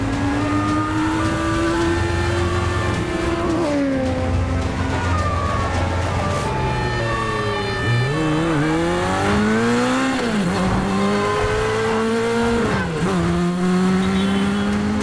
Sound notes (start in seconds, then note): 0.0 sirens blaring; 4.6 sirens blaring; 10.7 honking